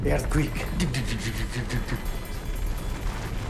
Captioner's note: imitates ice cracking; slow music